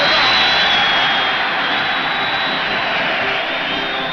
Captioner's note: crowd cheers